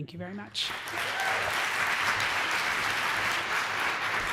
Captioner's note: applause